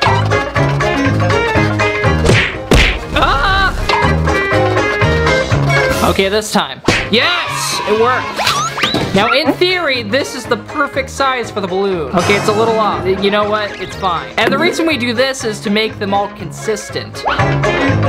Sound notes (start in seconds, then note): 0.0 funky upbeat music; 2.2 punching sounds; 3.3 screams; 17.8 funky upbeat music